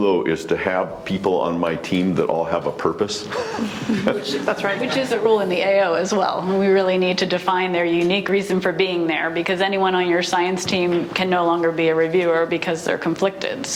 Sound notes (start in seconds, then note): 3.3 panelists laugh